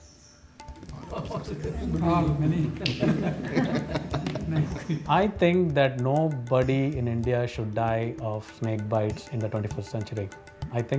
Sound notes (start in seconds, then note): 1.0 laughing